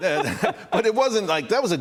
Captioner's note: laughter